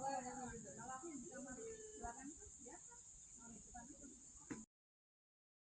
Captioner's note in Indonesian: berbicara bahasa Indonesia